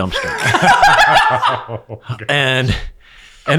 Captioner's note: laughing